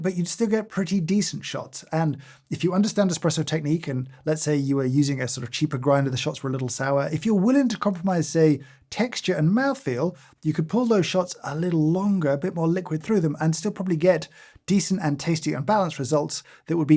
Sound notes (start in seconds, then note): none